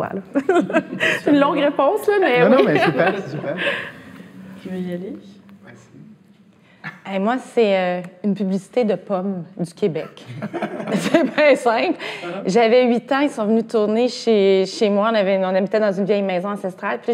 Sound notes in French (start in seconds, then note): 0.3 rires; 10.2 rires